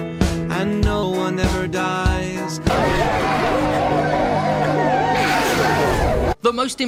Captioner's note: insert sounds of death